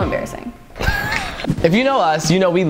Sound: laughs

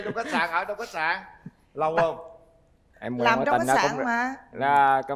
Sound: laughter

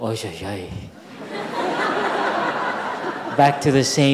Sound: audience laughing

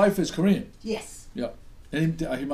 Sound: voiceover

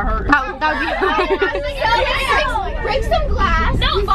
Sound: girls yelling over each other

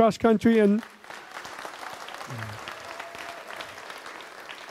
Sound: audience applauds

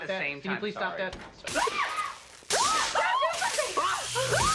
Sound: DEAN and ANNIE screaming

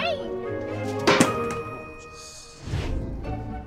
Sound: can clangs

